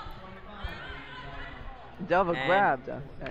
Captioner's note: crowd drowns out announcer